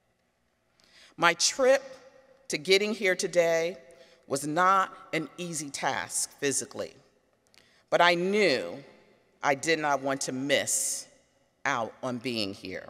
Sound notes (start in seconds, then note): none